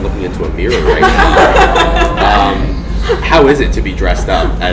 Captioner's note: laughing